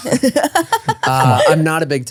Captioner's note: laughing